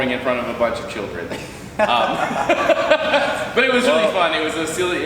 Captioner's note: laughing